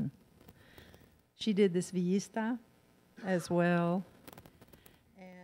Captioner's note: in foreign language